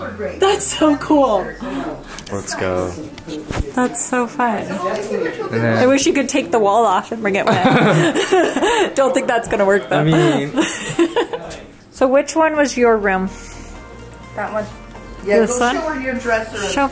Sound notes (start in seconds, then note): 7.4 laughs